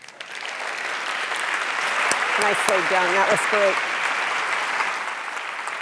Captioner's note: audience applause